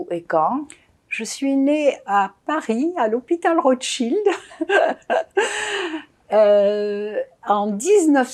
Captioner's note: laughing